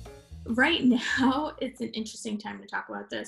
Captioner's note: chuckles